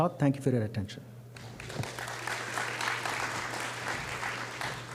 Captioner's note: applause